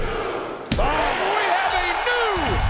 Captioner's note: crowd cheers